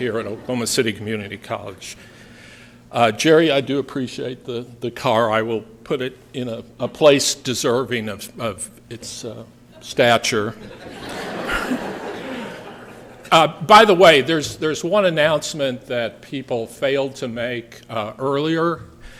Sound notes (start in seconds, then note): 10.5 laughter